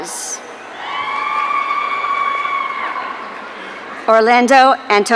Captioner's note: audience cheering